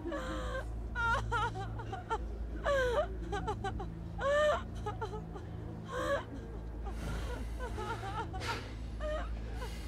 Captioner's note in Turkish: Ağlama sesleri